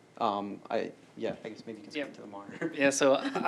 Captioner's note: laughter